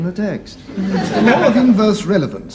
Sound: audience laughs

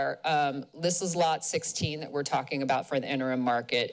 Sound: none

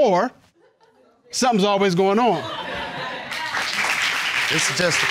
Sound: audience laughing, applauding

